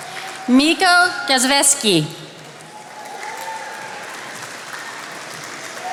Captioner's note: attendees applauding